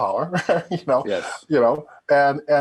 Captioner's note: chuckling